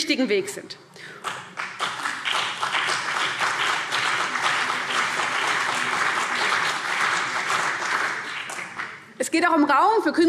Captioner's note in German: Beifall CDU und BÜNDNIS 90/DIE GRÜNEN